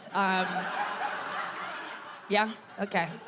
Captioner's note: audience laughing